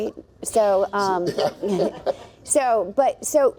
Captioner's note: laughs